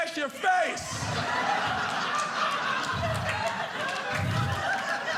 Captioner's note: audience laughing